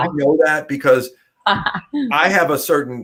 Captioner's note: laughter